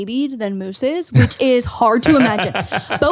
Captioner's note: laughs